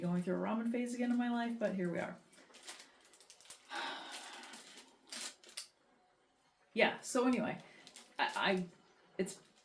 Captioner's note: long sigh